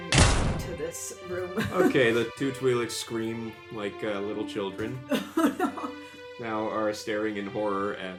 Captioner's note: laughs